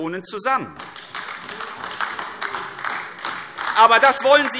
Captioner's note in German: Beifall AfD